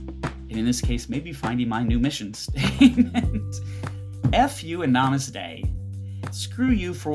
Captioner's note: laughs